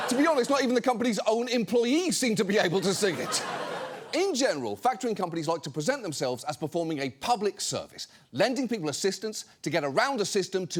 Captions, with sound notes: To be honest, not even the company's own employees -seem to be able to sing it. -(AUDIENCE LAUGHS) In general, factoring companies like to present themselves as performing a public service, lending people assistance to get around a system